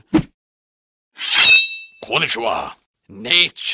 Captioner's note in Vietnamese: Tiếng Nhật